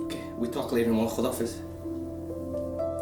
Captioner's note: speaking Farsi